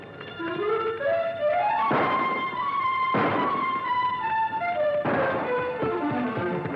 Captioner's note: suspenseful music; guns firing